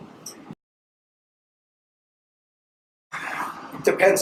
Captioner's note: silence